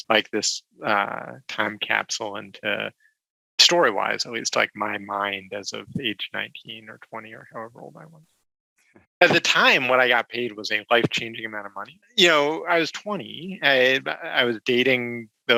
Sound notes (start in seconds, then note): none